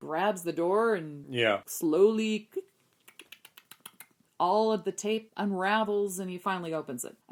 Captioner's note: mimicking tape unraveling